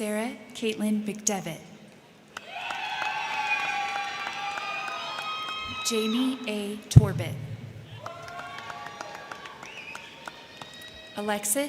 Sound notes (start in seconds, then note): 2.3 crowd clapping; 2.3 crowd cheering; 7.8 crowd clapping